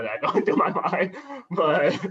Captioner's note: laughter